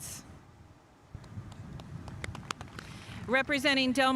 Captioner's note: spectators applauding